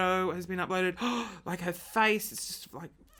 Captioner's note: gasping